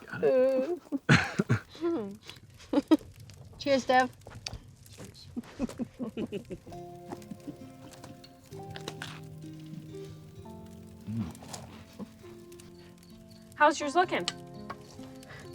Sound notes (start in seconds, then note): 0.2 group chuckling; 5.3 Charlotte and Betty laughing; 7.7 crackers cracking